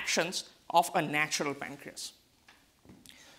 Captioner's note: none